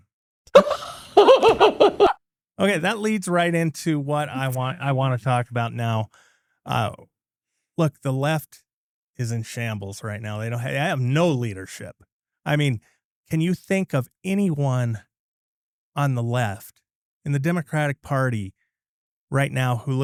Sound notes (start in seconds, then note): 0.5 laughing